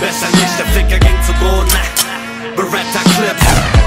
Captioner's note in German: Gunshot